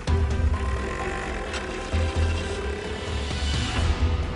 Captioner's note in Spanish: Ruido de la moto al irse